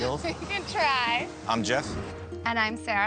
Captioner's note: laughs